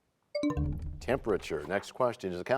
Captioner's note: bell chimes, time expires